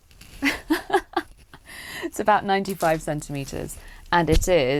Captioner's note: laughter